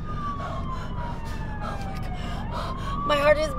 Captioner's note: panting